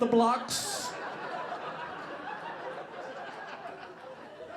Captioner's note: audience laughing